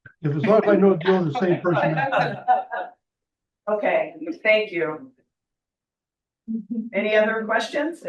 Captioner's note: laughter